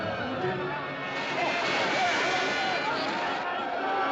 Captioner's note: Grito, Grunhido